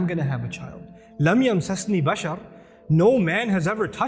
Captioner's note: Arabic